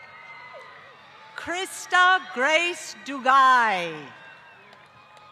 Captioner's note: applause